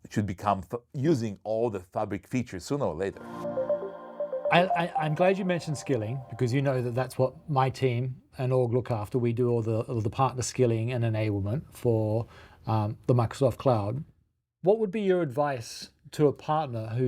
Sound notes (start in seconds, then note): 3.2 screen chiming